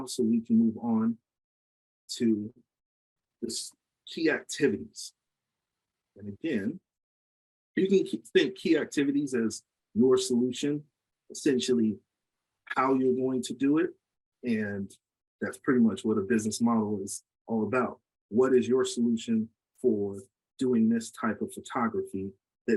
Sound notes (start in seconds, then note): none